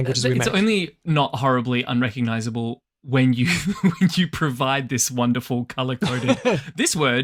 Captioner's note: laughs